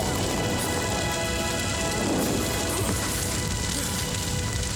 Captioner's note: both coughing; fire roaring